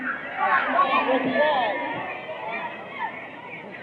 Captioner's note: taps feet